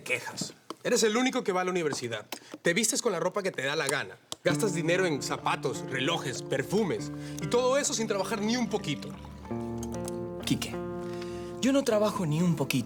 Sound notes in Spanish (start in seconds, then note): none